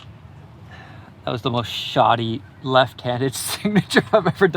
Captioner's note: laughs